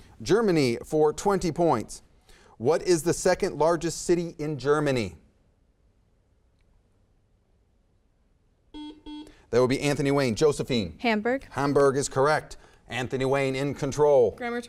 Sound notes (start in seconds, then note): 8.7 buzzer beeps